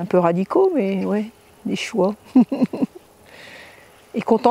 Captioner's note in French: Rires